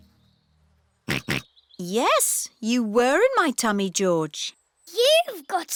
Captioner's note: snorts